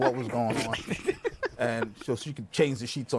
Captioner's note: laughter